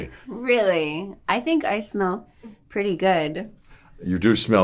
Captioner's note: sniffs